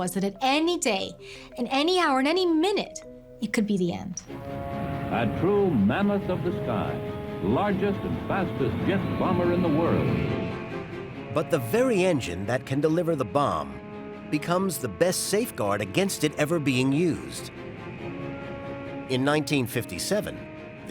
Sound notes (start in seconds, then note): 5.0 radio voice